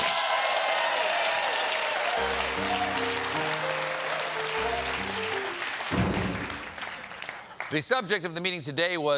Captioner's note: applause